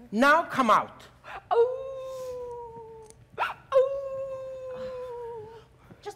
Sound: Sharik softly howling

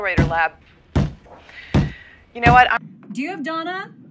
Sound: Josh bangs his head repeatedly

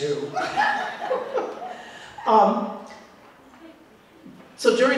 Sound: laughter

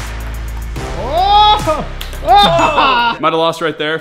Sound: yelling

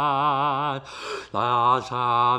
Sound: gasp

